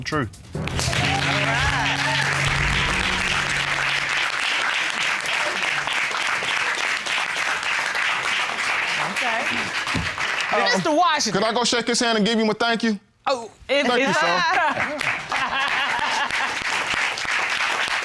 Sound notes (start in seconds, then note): 0.3 applauding; 14.6 audience applauds; 15.4 judge laughs